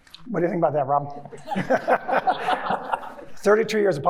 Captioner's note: everyone chuckling